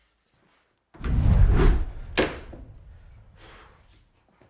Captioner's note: air whooshes